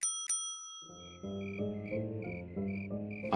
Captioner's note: bell ringing; bright music